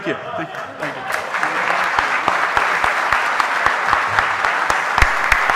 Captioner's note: audience applauding